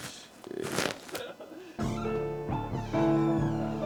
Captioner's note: laughs